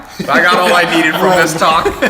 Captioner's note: laughter